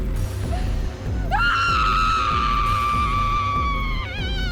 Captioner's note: yells